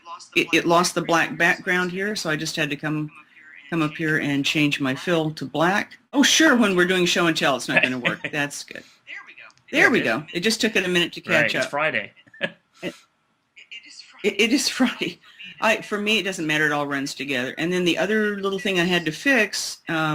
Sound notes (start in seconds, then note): 7.7 laughs